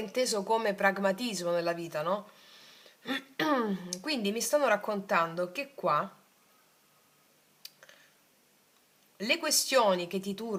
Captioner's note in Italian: schiarire la voce